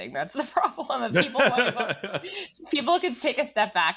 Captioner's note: both laughing